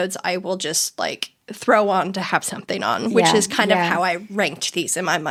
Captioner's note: none